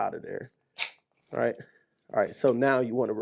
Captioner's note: magazine clicks